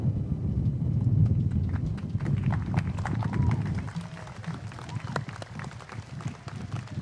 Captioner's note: applause